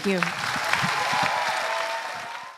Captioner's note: applause